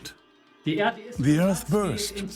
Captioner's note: in German; dubbed in English